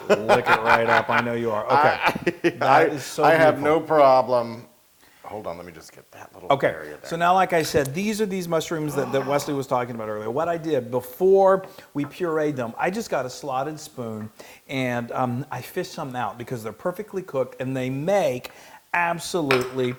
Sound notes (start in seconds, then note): 0.0 laugh